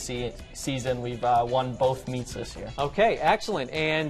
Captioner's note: none